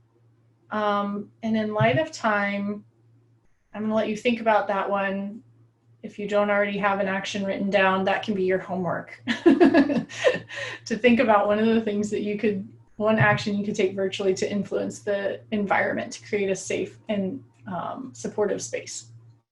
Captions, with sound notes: And in light of time, I'm gonna let you think about that one. If you don't already have an action written down, that can be your homework, (laughing) to think about one action you could take virtually to influence the environment to create a safe and supportive space.